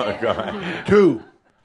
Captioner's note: laughter